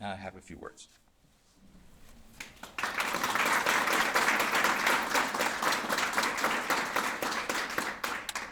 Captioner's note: applause